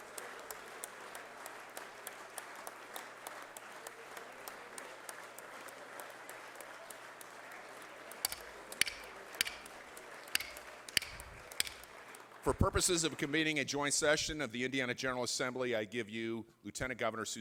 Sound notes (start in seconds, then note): 10.4 sounding gavel